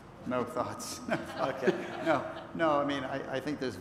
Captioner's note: laughter